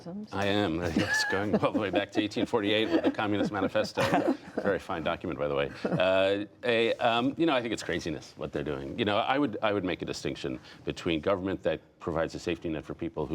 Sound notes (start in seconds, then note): 5.6 laughter